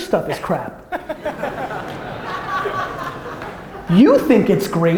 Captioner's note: audience laughter